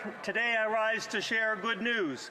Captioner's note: some Applause